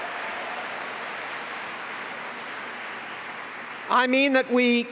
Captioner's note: applause